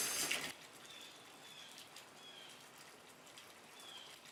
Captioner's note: birds singing